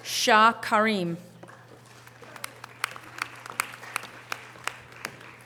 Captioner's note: audience applause